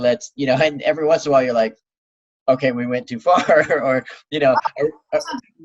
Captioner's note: laughs